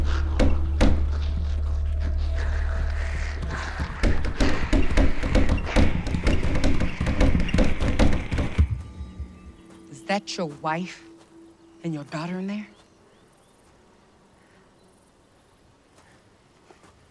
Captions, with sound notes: [grumbling] [banging] - Is that your wife and your daughter in there? [birds chirping]